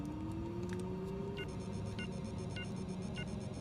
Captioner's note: beeping